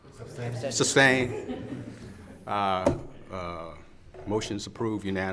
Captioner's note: all laugh